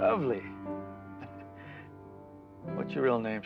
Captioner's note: chuckling